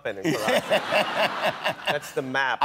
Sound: laughter

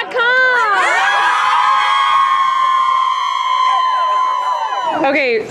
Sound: cheers

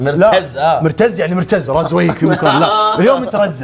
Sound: laughs

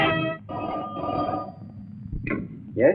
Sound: phone ringing

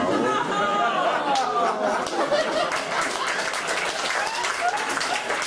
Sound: applause

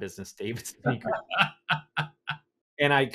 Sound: laughing

